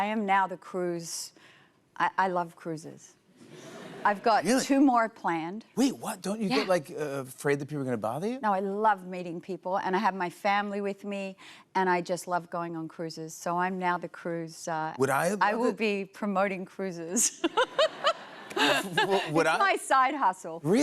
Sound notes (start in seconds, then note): 17.2 laughter